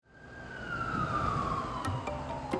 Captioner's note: traffic noise